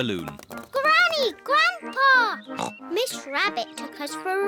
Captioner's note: oinks